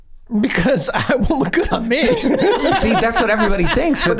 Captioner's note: laughs